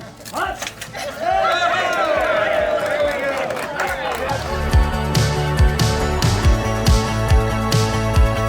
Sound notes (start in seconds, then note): 0.9 cheers